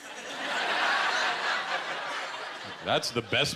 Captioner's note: laughter